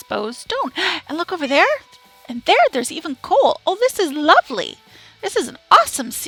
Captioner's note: gasp